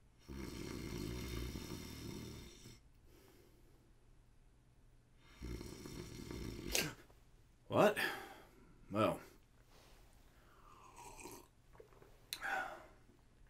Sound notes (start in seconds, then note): 0.2 snoring; 6.4 gasp